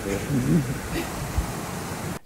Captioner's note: pained laugh